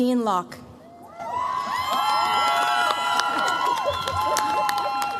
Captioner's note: cheers, applause